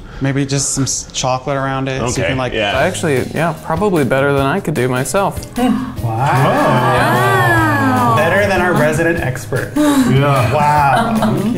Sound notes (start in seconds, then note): 6.0 everyone saying “wow”